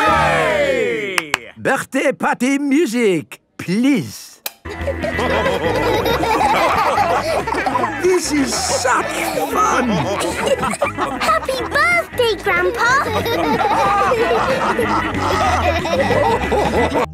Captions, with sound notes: - Hooray! - (claps) Birthday party music, please! (dance party music) - This is such fun! - (laughing) Happy birthday, Grandpa!! - (all laughing)